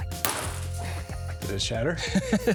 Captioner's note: glass breaking; laughter